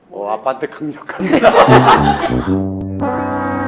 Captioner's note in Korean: 하하하하하하하하